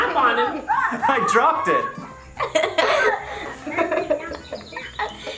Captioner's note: laughs loudly